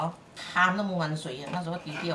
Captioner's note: Cantonese